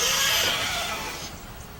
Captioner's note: dramatic music; drill whirring